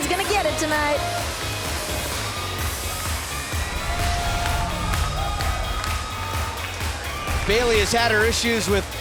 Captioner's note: crowd cheering